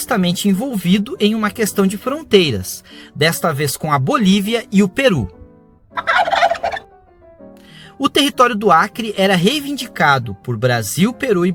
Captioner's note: turkey gobbles